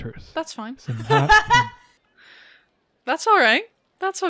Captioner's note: laughter